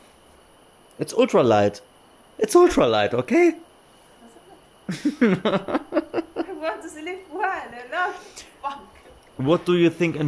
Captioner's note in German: gelächter